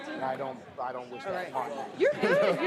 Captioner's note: laughter